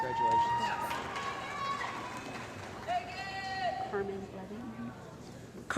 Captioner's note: cheering & Applause